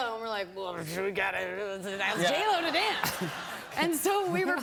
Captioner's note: laughter